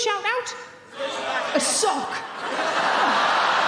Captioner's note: audience members shouting; audience laughing